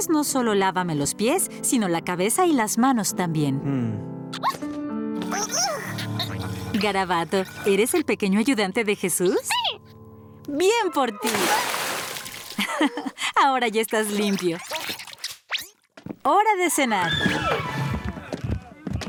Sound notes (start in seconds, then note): 4.4 caterpillar noises; 11.2 splash